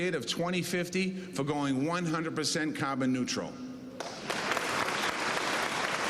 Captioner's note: cheers and applause